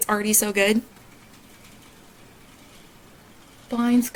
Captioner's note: blinds crashing